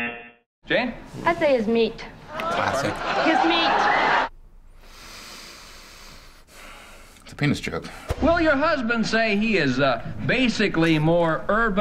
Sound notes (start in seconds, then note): 0.0 buzzer; 4.7 cleansing breath